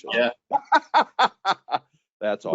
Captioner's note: laughing